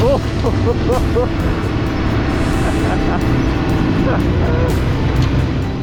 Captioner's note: laughing